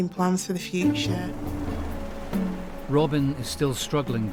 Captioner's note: wind whooshing